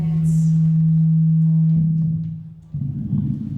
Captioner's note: low hum